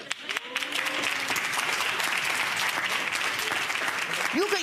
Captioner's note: audience applauds